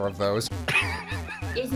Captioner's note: video game noises